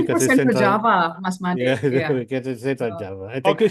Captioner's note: laughs